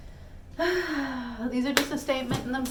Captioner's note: le sigh